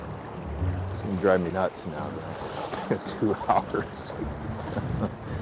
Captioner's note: whimsical music; laughing